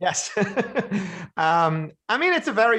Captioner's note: laughter